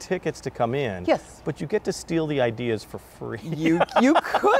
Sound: laughs

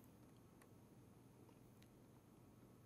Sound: click

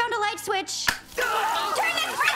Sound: yelling

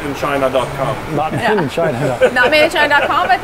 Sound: chuckling

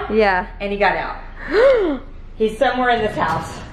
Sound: gasps

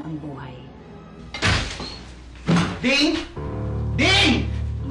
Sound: door closes

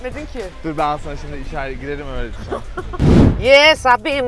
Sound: laughs

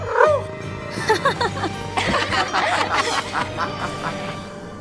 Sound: laughing

